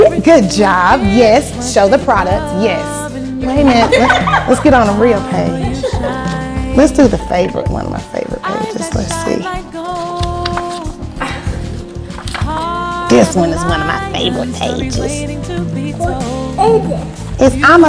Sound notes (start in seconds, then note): 3.6 laughing; 11.6 page flipping